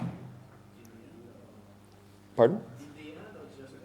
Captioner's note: man speaks softly; man speaks softly